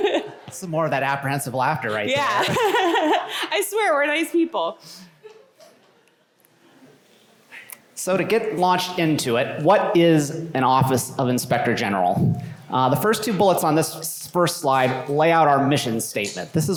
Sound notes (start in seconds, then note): 2.2 laughter